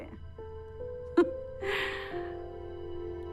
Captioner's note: politician chuckles